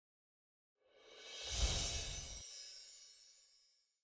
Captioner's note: chimes tinkling